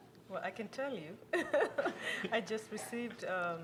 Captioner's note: chuckles